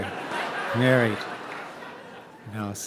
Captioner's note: audience laughing